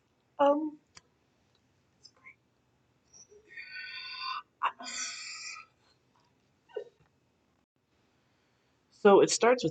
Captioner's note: more moments of silence